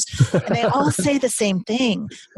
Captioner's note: laughing